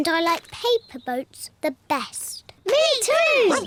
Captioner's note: giggle